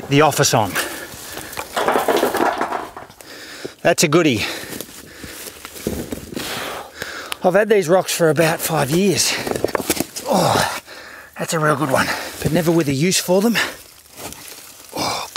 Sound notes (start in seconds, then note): 10.1 puffing